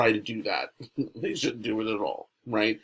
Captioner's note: chuckles